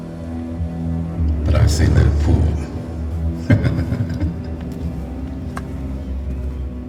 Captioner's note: laughs